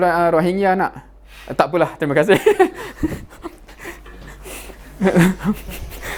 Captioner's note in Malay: ketawa